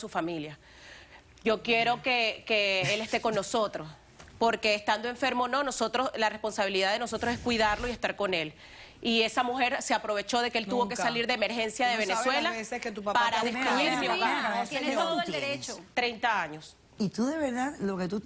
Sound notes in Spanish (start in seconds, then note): 13.6 Hablan al unísono